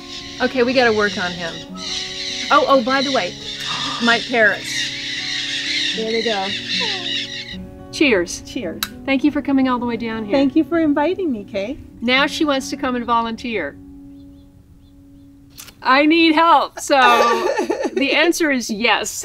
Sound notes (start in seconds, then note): 5.3 parrot flock screeching